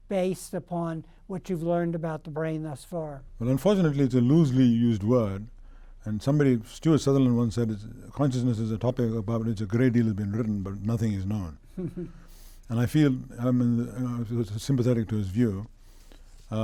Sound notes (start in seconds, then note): 11.8 laughs